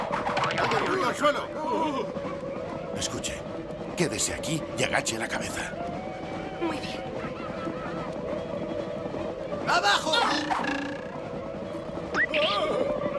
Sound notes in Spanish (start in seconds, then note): 6.8 gritos de indios